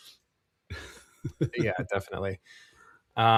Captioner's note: laughs